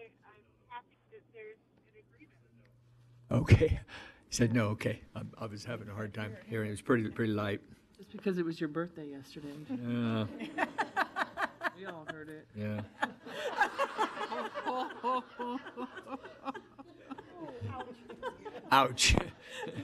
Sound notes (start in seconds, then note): 12.6 audience laughing